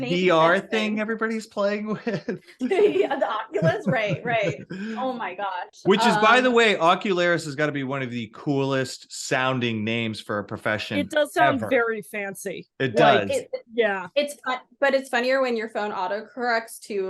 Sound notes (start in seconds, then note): 1.9 laughs; 3.5 laughing